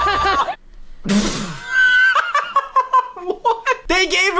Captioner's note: laughter